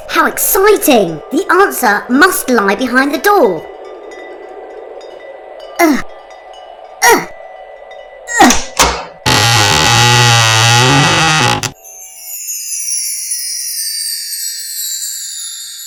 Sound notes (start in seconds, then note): 8.4 creaking